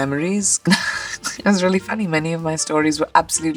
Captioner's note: laughs